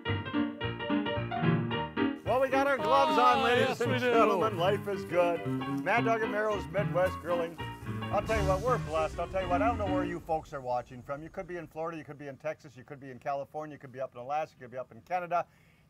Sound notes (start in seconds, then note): 3.9 chattering